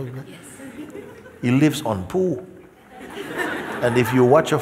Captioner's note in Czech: smích